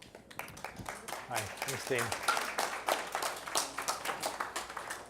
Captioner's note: applause